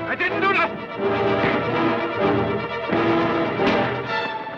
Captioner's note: thud